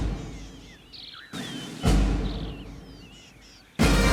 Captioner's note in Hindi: चिड़ियों का चहचहाना